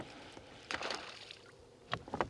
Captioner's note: splash